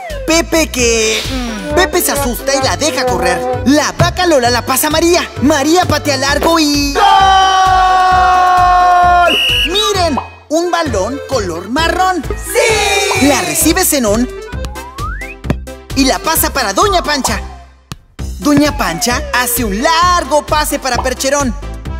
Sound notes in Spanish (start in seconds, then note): 9.2 Sonido de silbato